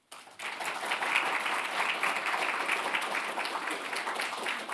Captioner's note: audience applauding